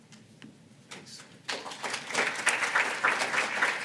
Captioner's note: applause